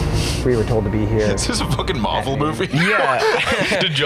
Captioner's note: laughs